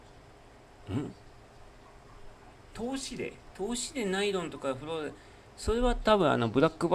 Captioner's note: clears throat